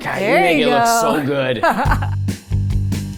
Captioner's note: chuckling; upbeat music